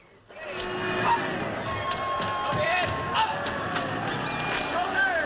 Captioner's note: crowd Cheering